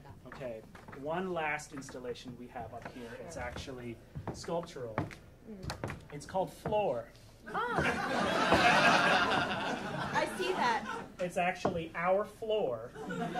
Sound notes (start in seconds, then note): 7.5 audience laughing